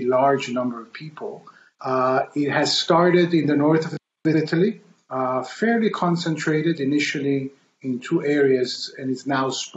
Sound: audio skip

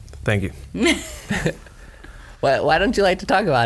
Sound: laughs

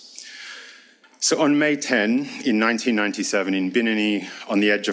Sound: speaks foreign language

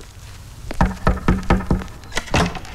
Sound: door knocking

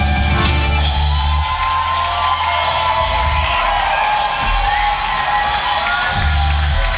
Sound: cheering

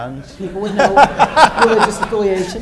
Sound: laughter

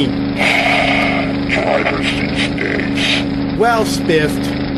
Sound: sighs

